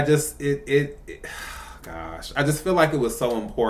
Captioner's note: sigh